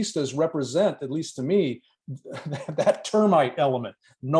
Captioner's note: laughter